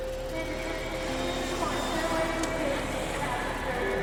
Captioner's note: plane engine whooshing